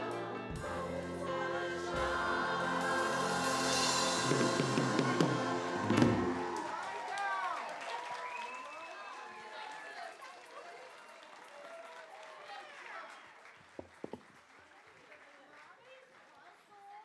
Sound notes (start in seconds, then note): 6.5 applause